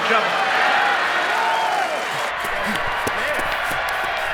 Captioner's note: crowd cheers